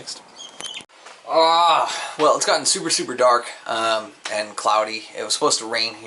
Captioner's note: groans